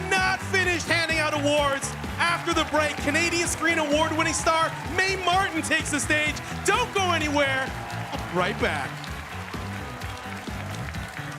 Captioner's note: cheers and applause